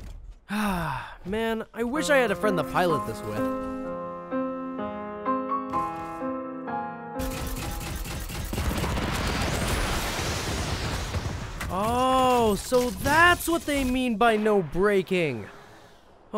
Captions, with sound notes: (sighs) I wish I had a friend to pilot this with. (somber music) Oh, so that's what they mean by no breaking.